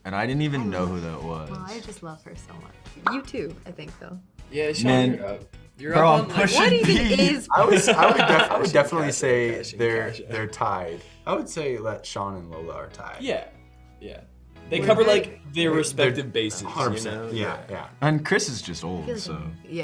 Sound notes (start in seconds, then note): 7.6 Gavin laughs